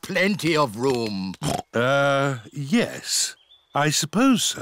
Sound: oinks

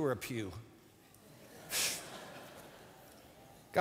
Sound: laughter

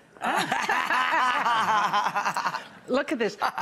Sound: all laugh

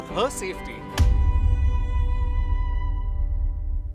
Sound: crash

